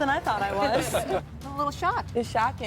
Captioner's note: crowd chuckles